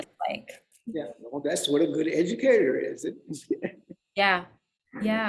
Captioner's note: laughs